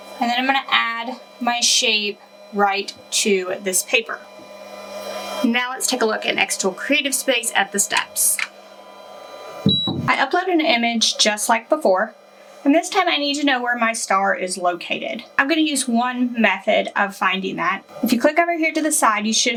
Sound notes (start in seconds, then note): 9.6 machine beeps